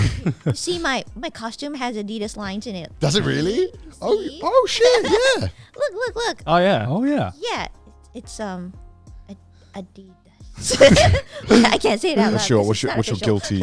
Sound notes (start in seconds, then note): 10.6 everyone laughing